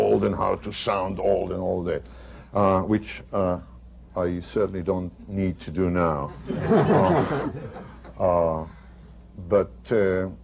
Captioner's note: laughter